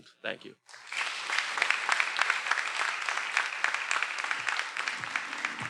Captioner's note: everyone applauding